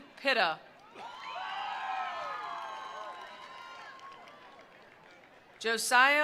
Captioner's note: attendees cheering; attendees applauding